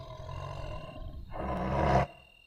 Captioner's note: snarls